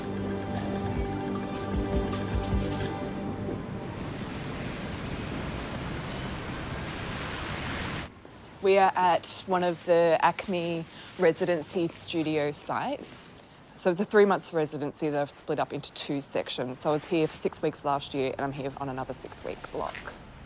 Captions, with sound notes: (Upbeat music) (Traffic murmuring) - We are at one of the acme residency studio sites, so it was a three months residency that I've split up into two sections. So I was here for six weeks last year and I'm here on another six week block.